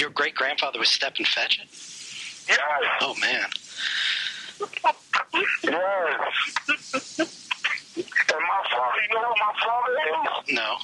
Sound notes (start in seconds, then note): 4.4 laughing